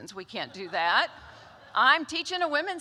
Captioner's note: laughter